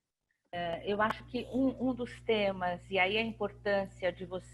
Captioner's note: speaking portuguese